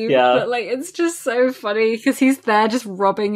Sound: laughs

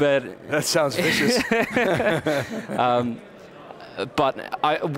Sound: laughing

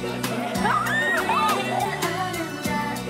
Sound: screaming

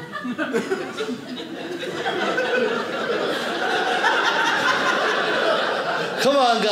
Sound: audience laughing

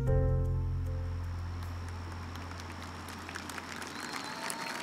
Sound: audience applauding

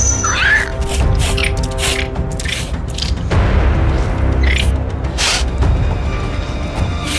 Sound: Brutus Sniffing

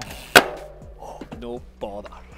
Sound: petal clanking

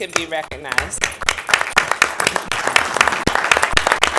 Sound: applause

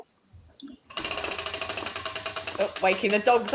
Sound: wheel ticking

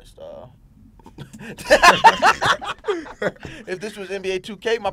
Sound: laughing

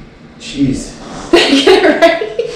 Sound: laughter

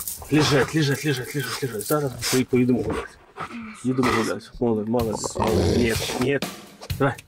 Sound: snarling dog

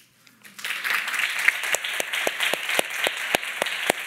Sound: all applauding

